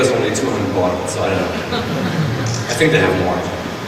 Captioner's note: laughing